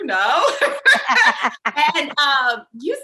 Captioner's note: both laugh